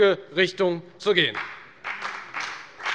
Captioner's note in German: Beifall bei der FDP